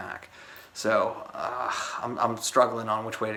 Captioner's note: groans